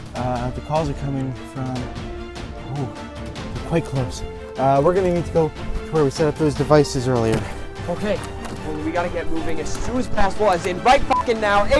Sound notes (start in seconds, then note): none